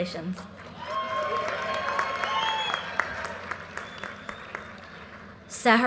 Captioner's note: audience cheers and applause